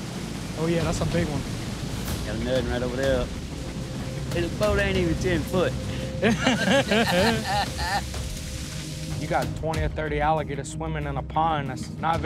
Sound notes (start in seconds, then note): 6.1 both laugh